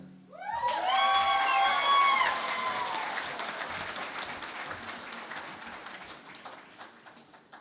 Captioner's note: cheering and Applause